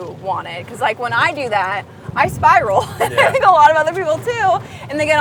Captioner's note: laughs